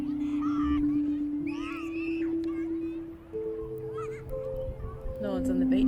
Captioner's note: children playing in the distance